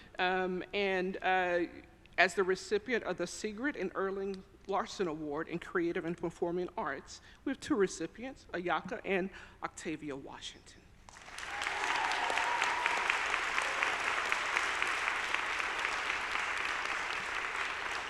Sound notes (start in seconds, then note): 11.1 audience applauding; 11.2 audience cheering